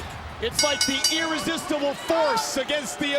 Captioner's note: bell rings